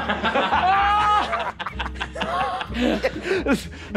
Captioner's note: players laughing